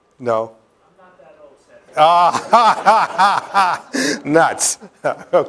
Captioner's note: laughter